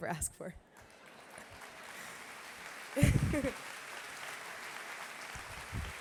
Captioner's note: applause